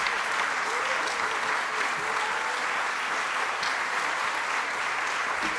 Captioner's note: applause continues